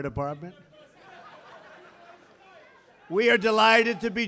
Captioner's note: laughter